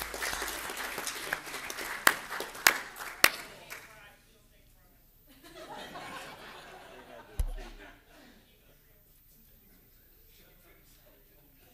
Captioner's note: applause